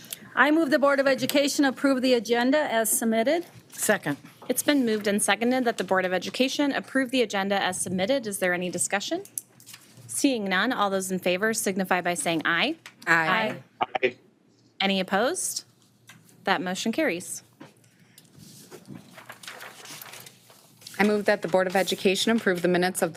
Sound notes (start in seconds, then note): 18.3 papers shuffling